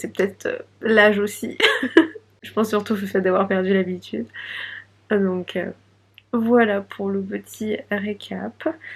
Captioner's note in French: rires